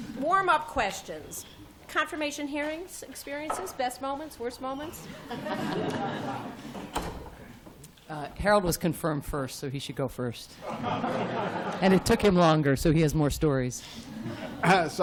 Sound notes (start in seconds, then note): 5.0 laughter; 10.6 laughter